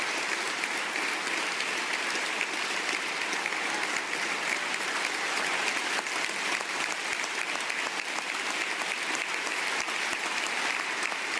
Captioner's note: applause